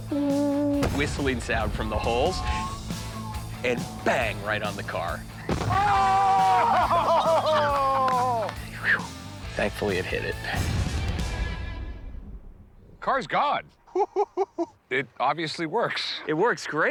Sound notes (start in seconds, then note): 5.6 all shouting, laughing; 13.8 laughs